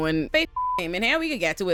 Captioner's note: beep